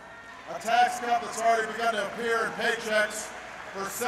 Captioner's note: applause